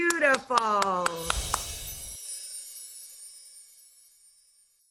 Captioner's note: claps; soft chimes